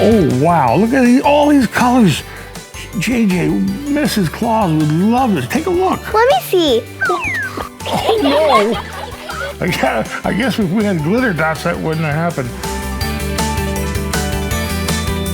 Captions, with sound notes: Oh wow, look at all these colors changing! Mrs. Claus would love this. Take a look! - Let me see! (slide whistle) - Oh, no! (laughter) I guess if we had Glitter Dots, that wouldn't have happened. (festive music)